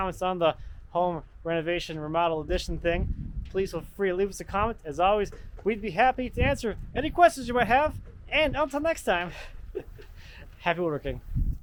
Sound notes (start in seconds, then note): 9.3 chuckles